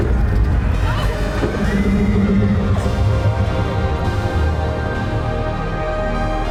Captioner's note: bright rhythmic music; laughing